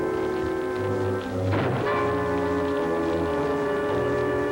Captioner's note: gunshot